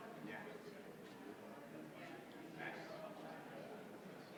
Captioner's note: indistinguishable chatter